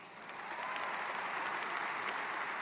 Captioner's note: applause